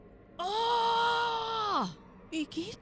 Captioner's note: screams